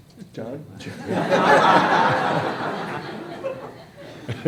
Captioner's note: laughter